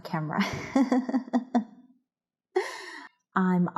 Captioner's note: laughing